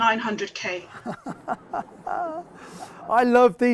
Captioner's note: laughing